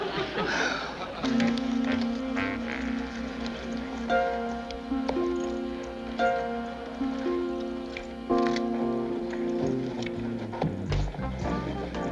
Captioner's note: sighs